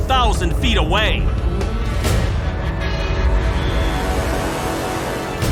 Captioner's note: horns blaring